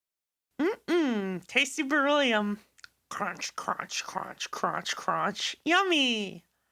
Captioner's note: cronch crunch cronch cruonch